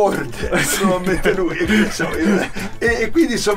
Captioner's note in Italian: Risate